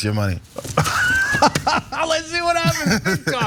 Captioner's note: laugh